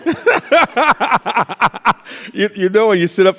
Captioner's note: laughing